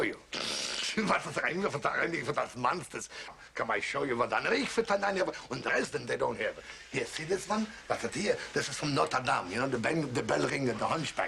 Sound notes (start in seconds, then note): 0.2 snickering; 1.4 speaking German